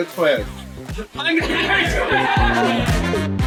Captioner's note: laughs